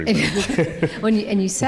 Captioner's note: chuckling